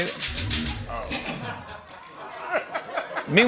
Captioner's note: laughs